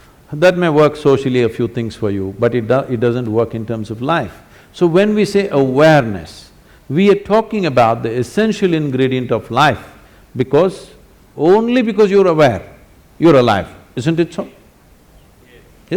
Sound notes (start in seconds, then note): none